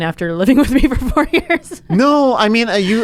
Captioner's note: laughs